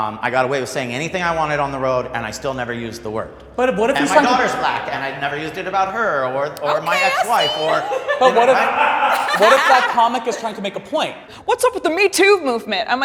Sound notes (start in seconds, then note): 6.8 laughing